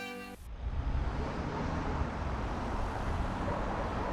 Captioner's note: cars passing